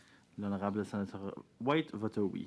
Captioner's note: speaking French